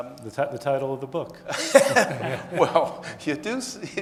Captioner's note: laughing